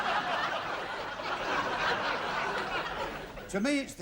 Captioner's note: laughter